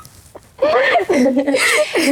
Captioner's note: laughs